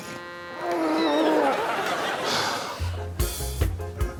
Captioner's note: groaning; audience laughing